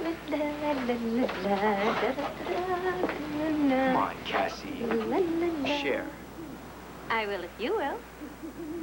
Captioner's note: cassie hums